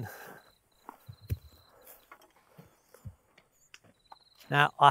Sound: insects chirping

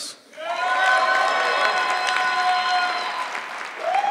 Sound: audience clapping

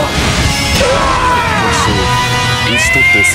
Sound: dominated scream

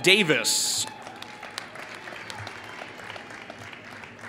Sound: applause

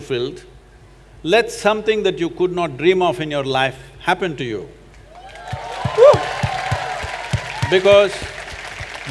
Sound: applause

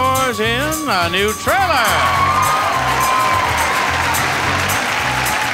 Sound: audience cheering

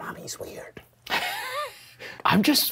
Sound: laughing

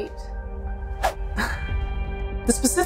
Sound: background music; chuckles

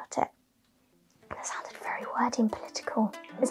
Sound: whispers

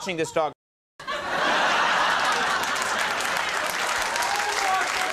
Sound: audience laughing

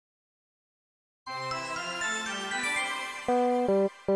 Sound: magical sound effect

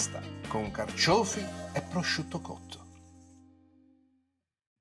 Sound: foreign language

